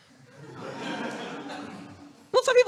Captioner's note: audience laughing